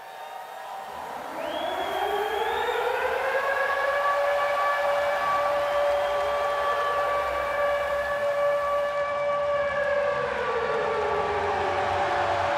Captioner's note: crowd cheering